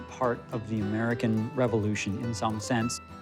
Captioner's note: none